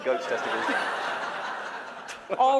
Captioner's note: laughter